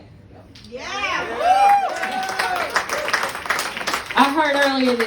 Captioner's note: yeah! *applause